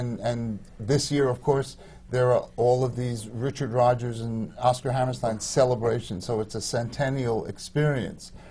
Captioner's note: none